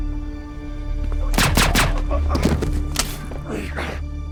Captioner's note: gun firing